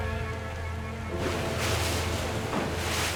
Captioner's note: waves crash